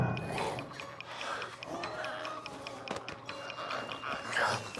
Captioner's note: glowzies growling